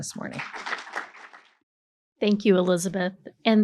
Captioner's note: attendees applaud